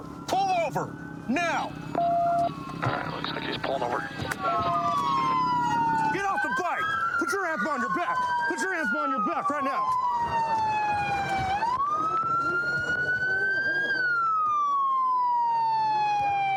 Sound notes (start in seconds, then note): 10.0 sirens blaring